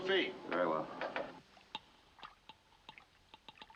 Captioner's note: tapping